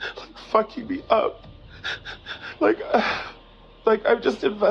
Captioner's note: sobbing